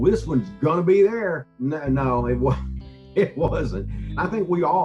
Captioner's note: laughing